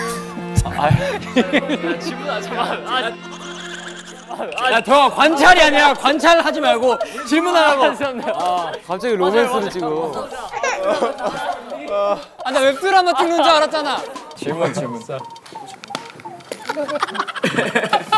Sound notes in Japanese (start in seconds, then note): 9.1 えーんえーん; 16.7 ｗｗｗｗ